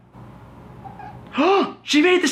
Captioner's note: cat trilling